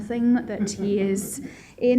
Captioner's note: laughter